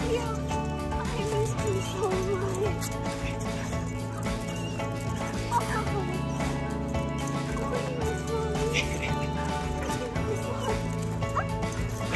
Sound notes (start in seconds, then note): 3.6 dog panting; 3.6 woman murmuring; 8.4 upbeat music